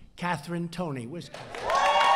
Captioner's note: applause